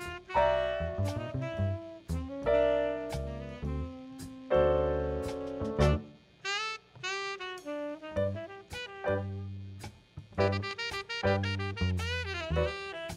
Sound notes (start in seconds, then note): none